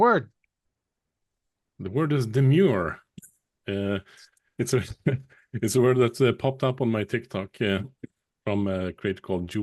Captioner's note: chuckles